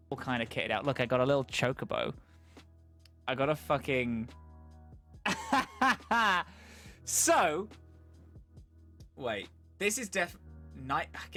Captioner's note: laughs